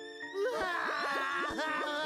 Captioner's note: both crying